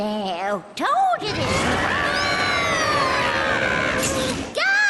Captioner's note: screams; camera shutter